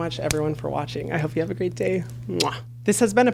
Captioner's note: kiss